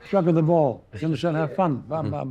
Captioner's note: chuckles